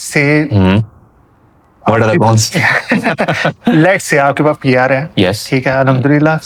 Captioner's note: laughter